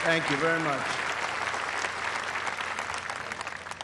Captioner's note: applause